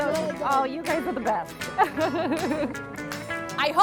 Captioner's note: laughing